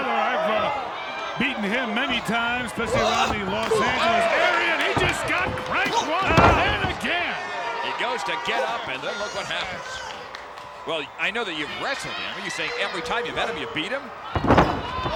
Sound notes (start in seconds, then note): 10.2 applause